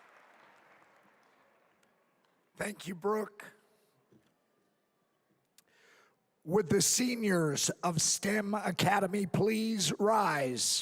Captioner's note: applause